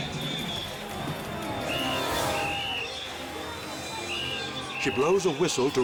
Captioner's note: whistle blows